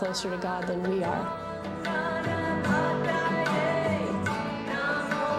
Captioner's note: foreign Language